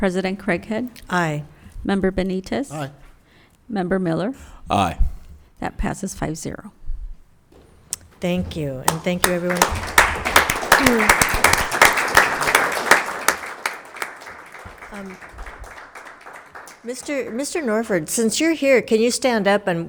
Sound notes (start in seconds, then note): 8.8 attendees applauding